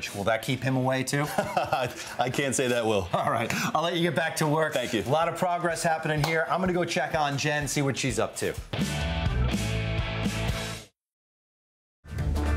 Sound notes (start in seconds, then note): 1.2 chuckles; 1.2 laughs; 8.4 happy instrumental music; 8.5 rock music